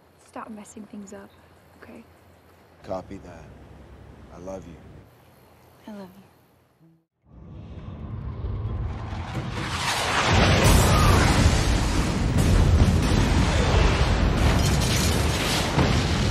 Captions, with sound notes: - Stop messing things up okay. - Copy that I love you. - I love you. (whooshing) (explosions)